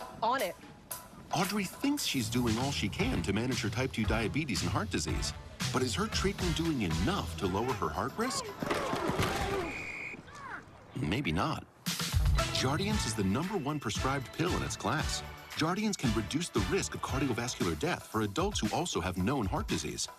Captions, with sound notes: On it. Audrey thinks she's doing all she can to manage her type 2 diabetes and heart disease but is her treatment doing enough to lower her heart risk? [SFX: Crash of football playersl coiding off-camera.] Maybe not. JARDNCIAE is the number 1 prescribed pill in its class. JARDIANCE can reduce the risk of cardiovascular death for adults who also have known heart disease.